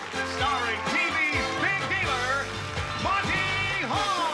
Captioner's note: cheers and applause